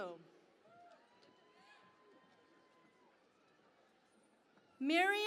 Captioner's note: cheering and Applause